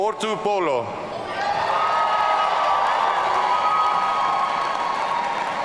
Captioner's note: audience cheering